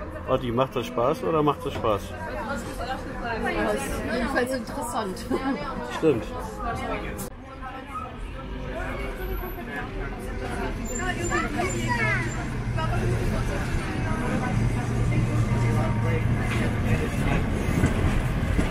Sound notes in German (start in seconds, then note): 7.9 Fahrgeräusche, Stimmen